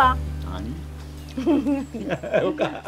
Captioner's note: both laughing